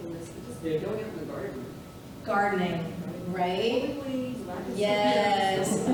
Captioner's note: none